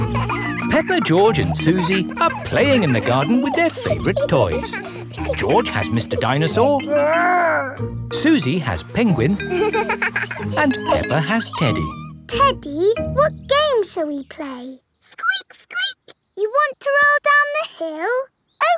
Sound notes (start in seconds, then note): 0.0 kids laughing; 9.3 giggles